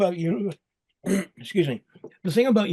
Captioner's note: clears throat